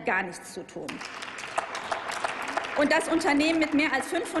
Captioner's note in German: Applaus